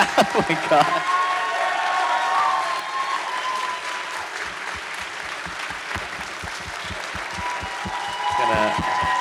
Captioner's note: audience cheering